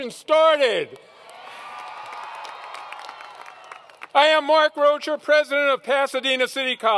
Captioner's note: applause